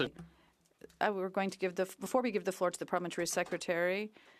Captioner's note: speaking French